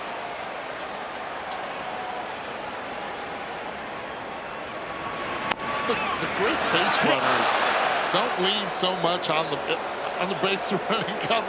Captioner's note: laughter